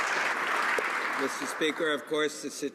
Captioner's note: some Applause